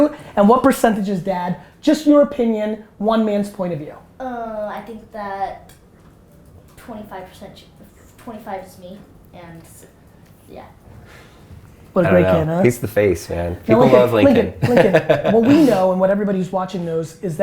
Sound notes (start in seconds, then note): 14.3 laughter